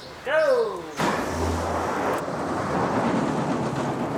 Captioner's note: train cars clack